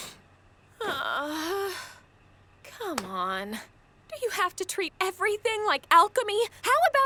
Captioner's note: groans